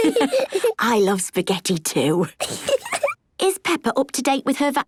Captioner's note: laughs